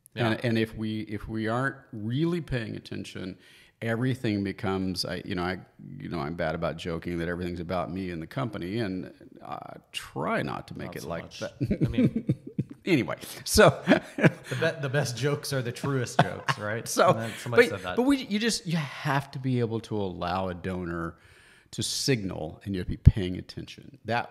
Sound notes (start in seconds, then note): 11.5 laughs